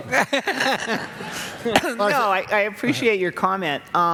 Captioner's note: laughter